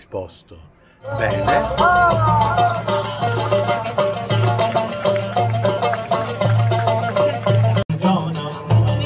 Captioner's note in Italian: Applauso